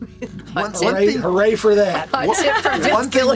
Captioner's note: laughs